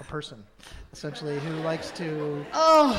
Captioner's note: light laughter in audience